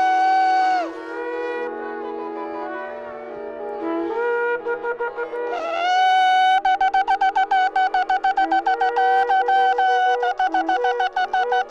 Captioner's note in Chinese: 吹奏號角